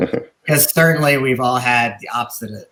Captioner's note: chuckling